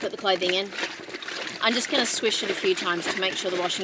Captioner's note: water sloshes loudly